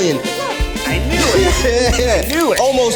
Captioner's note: can tab popping